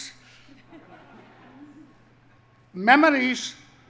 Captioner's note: audience laughs